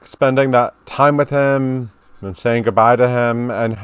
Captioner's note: none